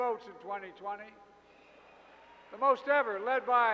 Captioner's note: applause